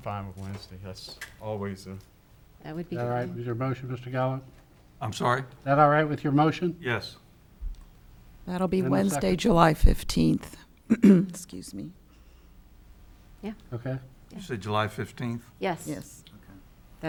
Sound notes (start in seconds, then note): 10.9 clears throat